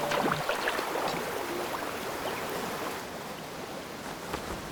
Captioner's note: water rushing